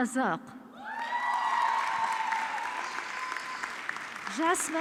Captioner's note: audience clapping